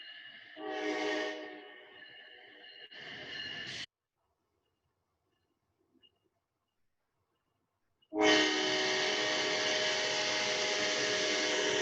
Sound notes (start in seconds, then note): 8.1 train whistle